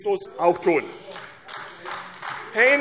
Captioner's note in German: Beifall AfD